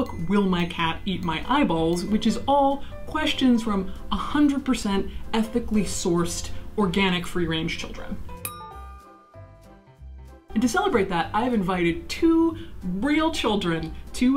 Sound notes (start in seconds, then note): 8.4 bell dinging